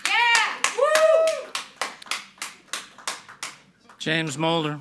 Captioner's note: audience clapping and cheering